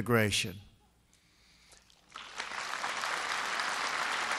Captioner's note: applause